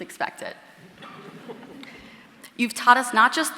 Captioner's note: audience laughing